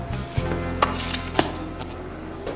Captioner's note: electricity crackles